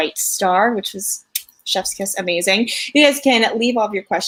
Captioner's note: kisses